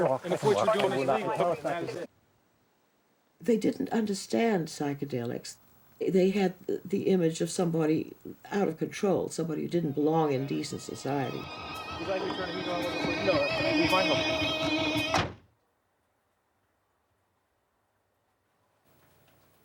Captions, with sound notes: and if what you're doing is illegal. They didn't understand psychedelics. They had the image of somebody out of control, somebody who didn't belong in decent society. (distorted guitar music) (car door slams)